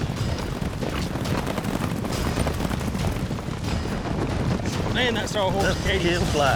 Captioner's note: fast hoofbeats